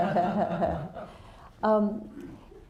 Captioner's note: laughter